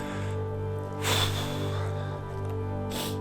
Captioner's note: sighs